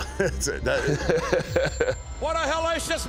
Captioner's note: both chuckle